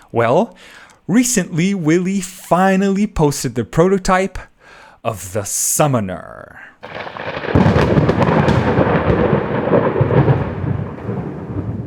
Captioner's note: thunder roars